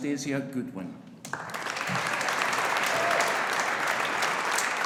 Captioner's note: audience applauding